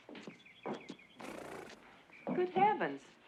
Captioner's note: nickers